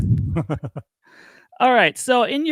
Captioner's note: laughs